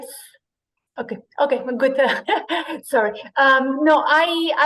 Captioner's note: laugh